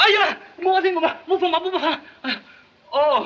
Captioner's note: yelling in Chinese